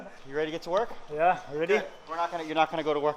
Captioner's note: beep